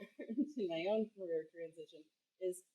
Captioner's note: laugh